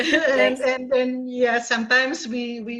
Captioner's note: laughs